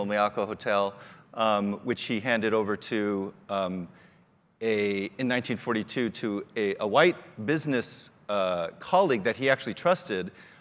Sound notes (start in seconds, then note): none